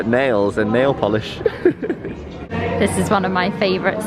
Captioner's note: laughs